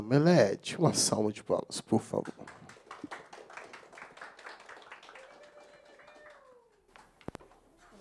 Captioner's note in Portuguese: palmas